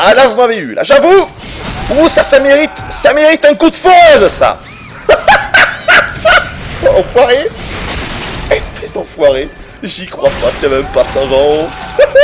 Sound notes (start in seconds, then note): 4.6 mad laugh